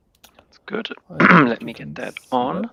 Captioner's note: clearing throat